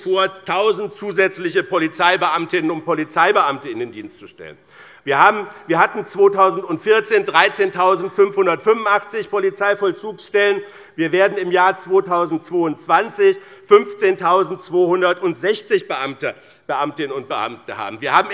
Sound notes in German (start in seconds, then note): none